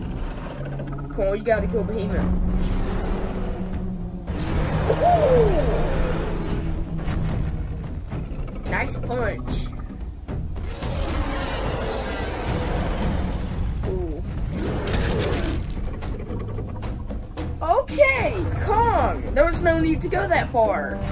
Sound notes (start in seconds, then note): 14.8 blood splatters